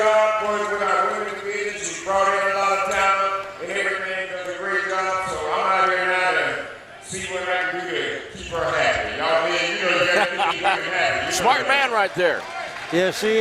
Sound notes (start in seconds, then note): 9.8 laughs